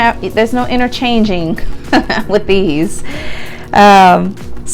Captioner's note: chuckles